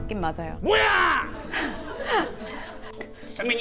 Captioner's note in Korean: 헤헤